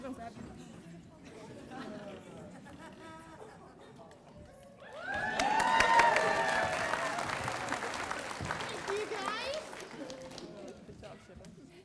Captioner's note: applause